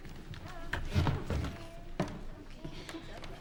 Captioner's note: table creaks